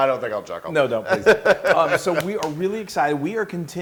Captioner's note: laugh